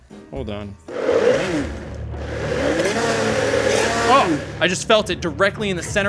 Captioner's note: blender whirring